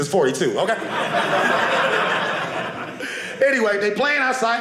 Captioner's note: audience laughing